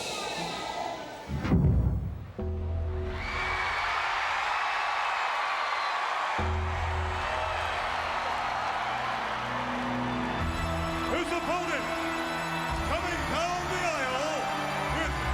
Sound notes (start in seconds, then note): 1.2 ominous music; 1.6 lid thuds; 3.1 audience cheering